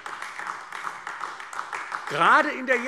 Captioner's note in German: Beifall AfD